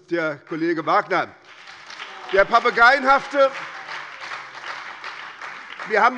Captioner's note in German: Beifall bei der SPD